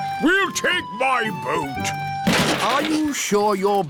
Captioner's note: clattering